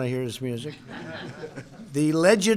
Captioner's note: laughter